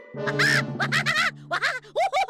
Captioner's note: laughing wildly